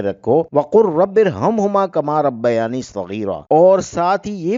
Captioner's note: in Arabic